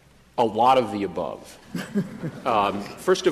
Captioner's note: laughter